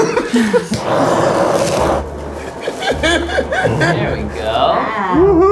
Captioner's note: laughs